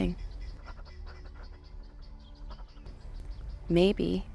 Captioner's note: Arawn whimpering